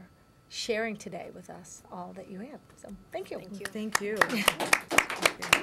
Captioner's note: applause